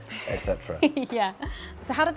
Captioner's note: laughs